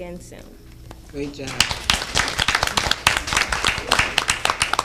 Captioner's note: applauding